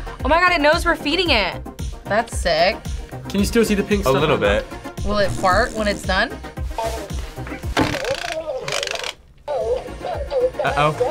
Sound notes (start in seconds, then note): 7.9 turtle gargles